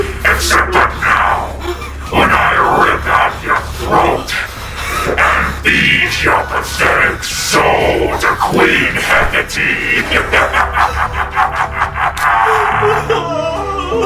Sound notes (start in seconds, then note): 9.5 laughing